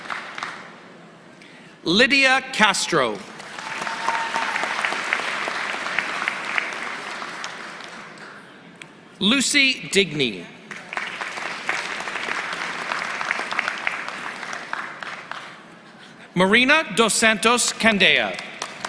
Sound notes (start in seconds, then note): 7.4 applause